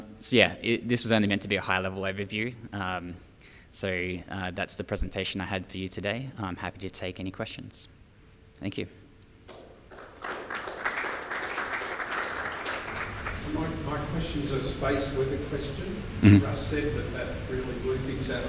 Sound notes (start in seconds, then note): 9.5 audience clapping